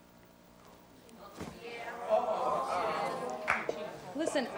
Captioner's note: audience stirs